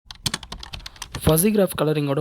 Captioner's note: typing